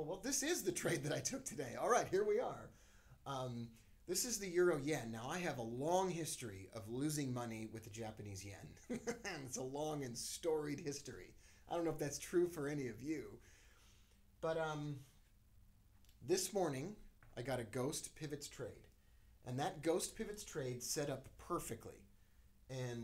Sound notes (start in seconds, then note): 8.8 laughs